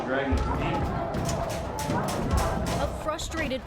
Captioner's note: door banging